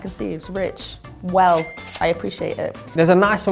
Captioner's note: cash register dings